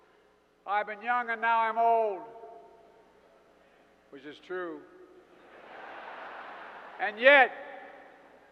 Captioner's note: laughter